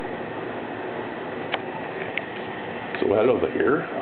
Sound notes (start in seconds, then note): 0.0 sound of air conditioner in background